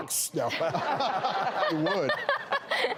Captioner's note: laughing